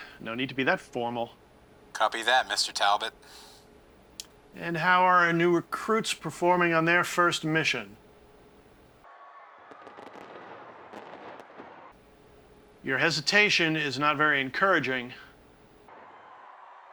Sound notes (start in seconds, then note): 9.0 distant people screaming; 9.6 distant guns firing